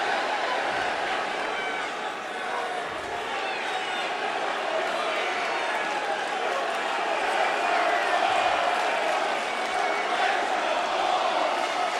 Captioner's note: crowd chanting yes